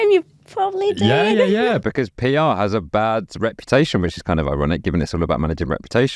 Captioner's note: laughs